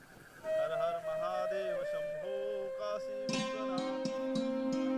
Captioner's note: chanting continues